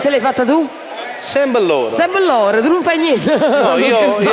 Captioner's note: laugh